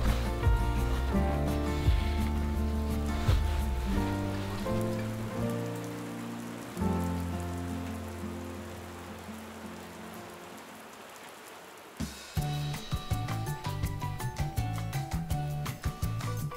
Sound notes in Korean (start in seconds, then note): 5.2 빗소리